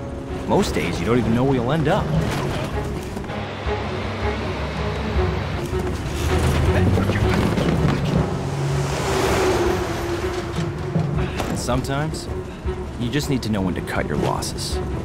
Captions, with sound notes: Most days, you don't even know where you'll end up. [grunting] And sometimes, you just need to know when to cut your losses.